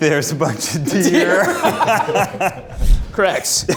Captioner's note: group laughs